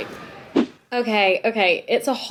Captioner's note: transition swishes